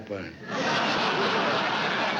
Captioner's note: laughter